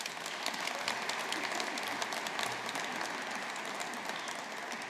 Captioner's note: audience applauding